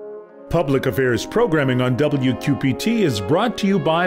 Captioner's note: voiceover